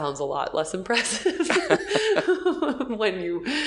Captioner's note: laughing